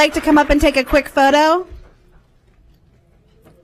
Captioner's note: applause